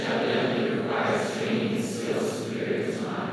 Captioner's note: crowd